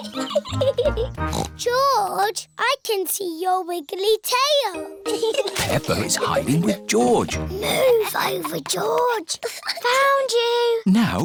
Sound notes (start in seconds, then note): 0.0 giggles; 1.2 snorts; 8.0 whispers